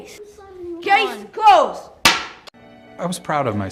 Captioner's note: gavel bangs